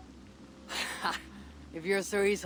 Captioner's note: laugh